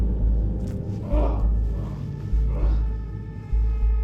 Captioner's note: moaning in pain